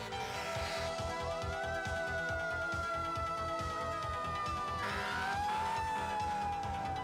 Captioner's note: siren wailing